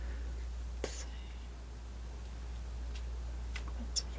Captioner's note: scratching